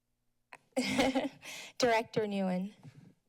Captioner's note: laughs